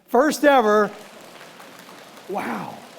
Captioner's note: audience applauding softly